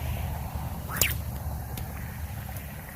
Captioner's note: sling whips; splash